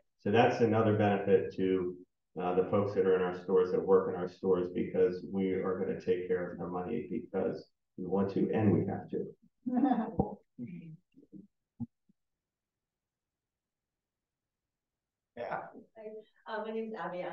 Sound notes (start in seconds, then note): 9.7 everyone chuckling